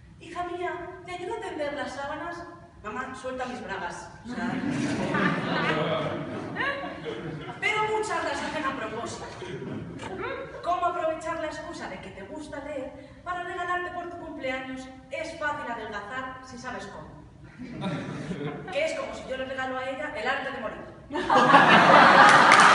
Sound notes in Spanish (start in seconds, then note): 4.3 risas; 17.5 Risas; 21.1 Risas